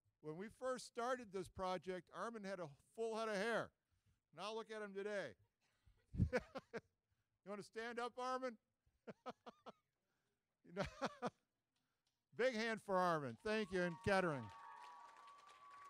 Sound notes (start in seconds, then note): 6.3 laughing; 10.7 laughing; 15.6 audience cheering